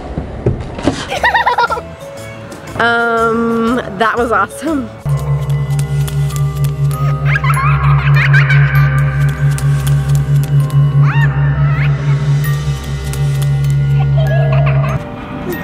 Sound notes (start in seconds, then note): 1.1 giggling; 5.8 creepy music; 8.1 child giggling; 9.1 running footsteps